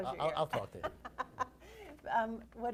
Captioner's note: laughs